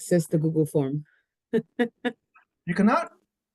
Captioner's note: laughs